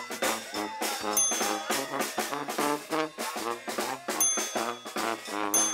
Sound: bell rings

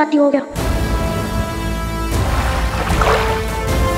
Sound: water gushing

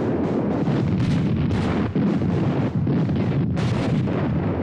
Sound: artillery exploding

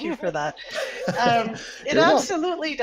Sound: laughs

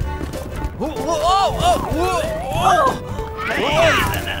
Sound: yelling

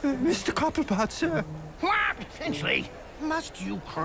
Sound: squawks

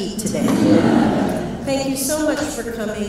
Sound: audience laughs

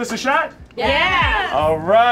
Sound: crowd

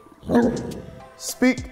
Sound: dog barking

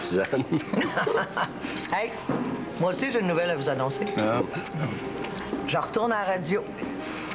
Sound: Rire

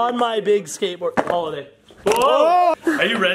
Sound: shouting

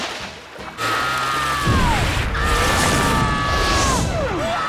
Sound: screaming

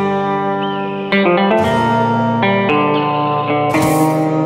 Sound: gentle guitar music; eagle screeches

